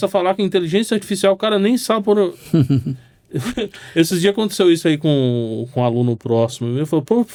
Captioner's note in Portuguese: risadas